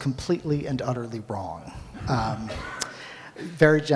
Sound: audience laughs

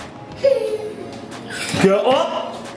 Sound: laughing

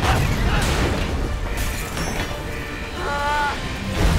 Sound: grunting, thudding; thudding

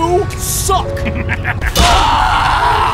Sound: The M36 GMC laughs; The Tiger H1 screams

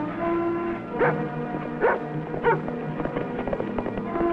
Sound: intense music; dog barks

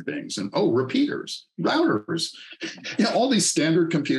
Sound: laughs

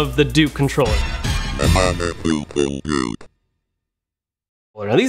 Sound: robotic mumbling

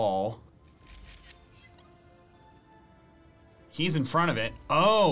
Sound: photo snapping

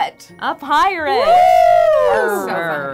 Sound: high pitch oohs

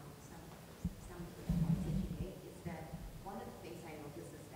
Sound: speaks quietly without mic

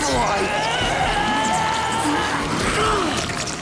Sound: all straining

